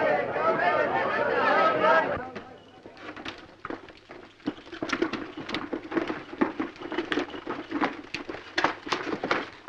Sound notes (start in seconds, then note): 4.4 hooves pounding